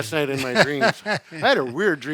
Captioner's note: chuckles